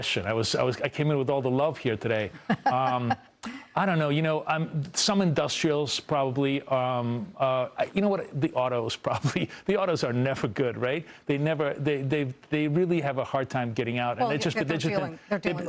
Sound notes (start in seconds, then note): 9.2 laughter